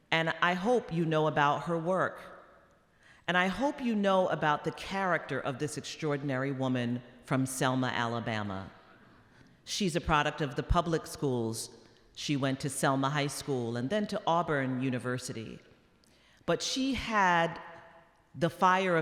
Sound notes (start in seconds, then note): none